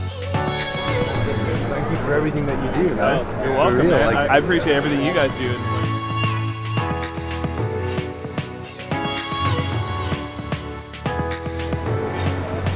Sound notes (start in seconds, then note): none